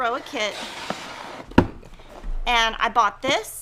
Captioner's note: kit swooshing and thudding